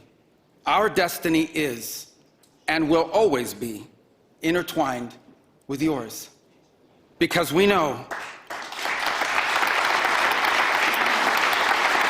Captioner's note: applause